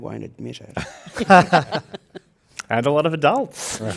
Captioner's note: participants laugh